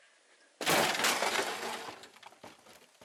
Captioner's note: crashing sounds